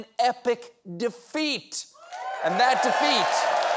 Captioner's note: cheers and applause